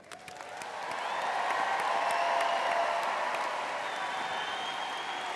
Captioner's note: audience applauding and cheering